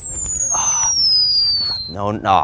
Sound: projectile dropping sound

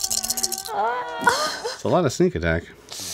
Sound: players moan

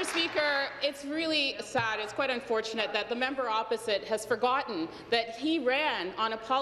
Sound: applause

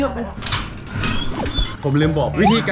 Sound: door opening

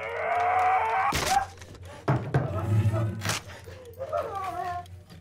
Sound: Carlos grunting; chair cracks; wood thumps; labored breathing; Carlos grunting

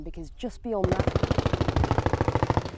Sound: gunfire

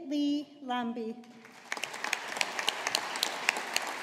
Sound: audience applauding

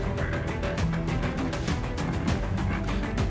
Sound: grunting

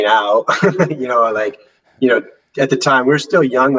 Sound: laughs briefly

